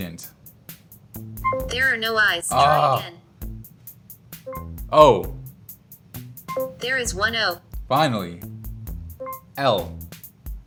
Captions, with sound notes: - [Voiceover] There are no I's. - Ah! - [Voiceover] Try again. - O. - [Voiceover] There is one O. - Finally. L.